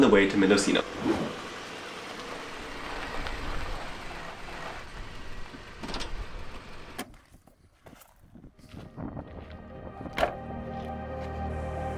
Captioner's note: car noises